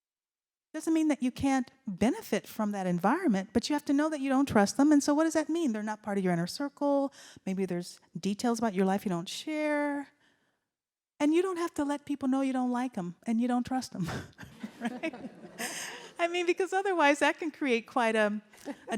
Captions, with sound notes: doesn't mean that you can't benefit from that environment, but you have to know that you don't trust them and so what does that mean? They're not part of your inner circle. Maybe there's details about your life you don't share. And you don't have to let people know you don't like them and you don't trust them. (laughs) I mean, because otherwise that can create quite